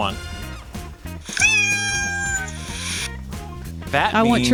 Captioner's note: cat meows